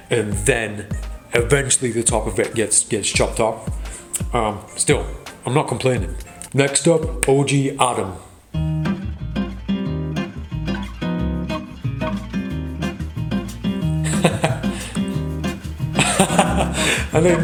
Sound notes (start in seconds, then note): 8.7 upbeat music; 13.7 laughs